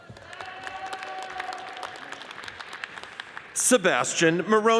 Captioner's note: audience cheers and applauds